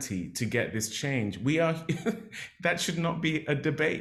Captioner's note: laughs